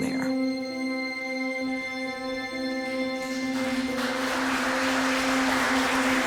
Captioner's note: gentle music continues; congregation applauding